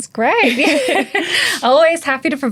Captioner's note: laughing